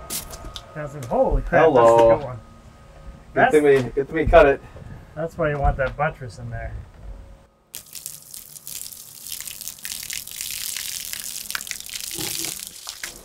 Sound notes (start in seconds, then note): 7.9 water sloshing